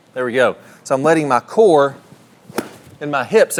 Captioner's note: club whistling